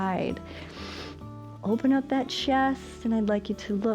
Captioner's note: inhales